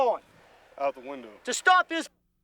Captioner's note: voiceover